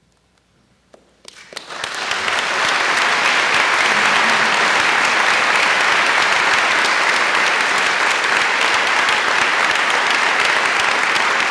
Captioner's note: applause